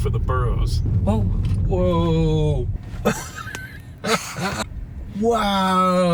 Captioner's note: chuckling